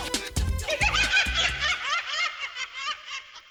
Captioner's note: laughing